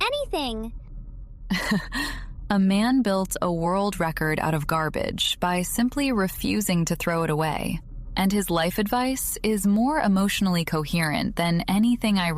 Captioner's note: laughs